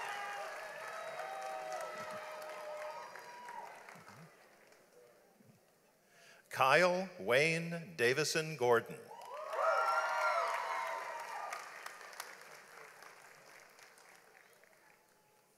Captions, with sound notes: Kyle Wayne Davison-Gordon. (audience applauds)